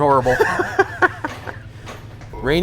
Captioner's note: laughs